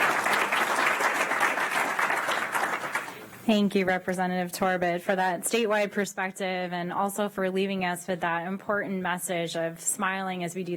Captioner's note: applause